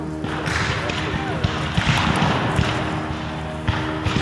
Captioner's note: guns fire